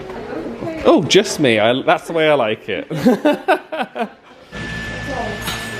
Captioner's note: laughing